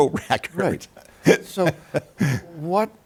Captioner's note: laughs